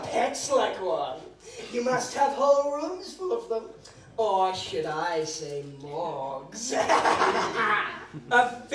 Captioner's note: evil laugh